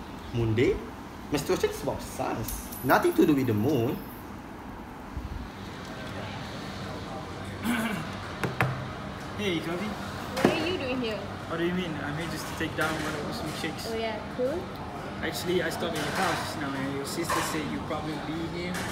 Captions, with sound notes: Moon day? Menstruation is about science. Nothing to do with the moon. Ehem! *knocks* Hey, Covey! What are you doing here? What do you mean? I'm here just to take down one of the milkshakes. Oh, yeah? Cool. Actually, I stopped at your house and your little sister said you'd probably be here.